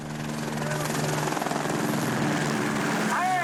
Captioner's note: helicopter blades whirring